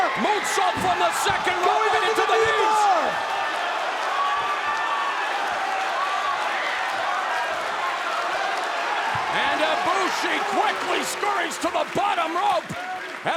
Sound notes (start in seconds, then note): 3.1 crowd cheering